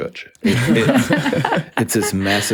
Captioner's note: group laughs